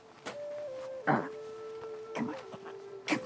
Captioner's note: Hatfield grunts